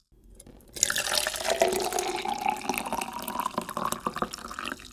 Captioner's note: pouring water